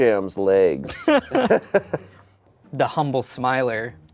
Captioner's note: everyone laughs